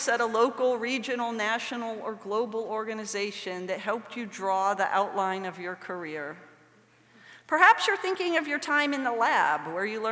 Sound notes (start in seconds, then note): none